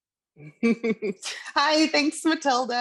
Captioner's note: chuckles